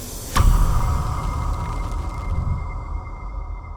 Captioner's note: thud echoes